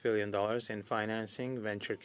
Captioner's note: speaking French